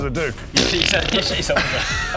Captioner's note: pfffffffffffft